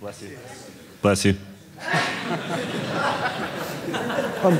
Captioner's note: guy sneezing